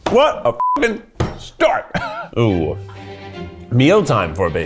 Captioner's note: beep